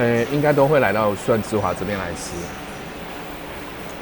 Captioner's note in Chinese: none